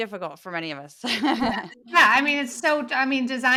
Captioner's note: laugh